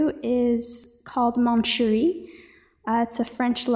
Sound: speaking in French

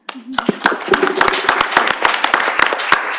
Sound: applause

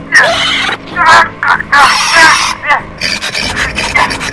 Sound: struggling Sounds

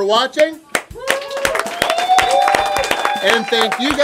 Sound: cheering & Clapping

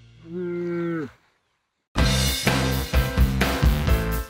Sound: cow bellows

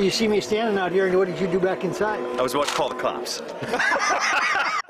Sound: laughter

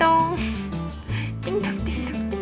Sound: laugh

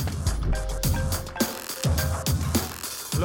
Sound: phone rings

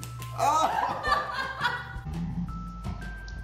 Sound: laughs

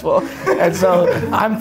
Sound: laughter

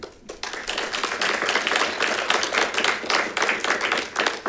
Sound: congregation claps

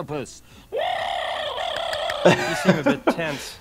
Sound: Zoidberg shrieking; laughing

